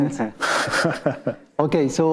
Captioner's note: panelists and attendees chuckling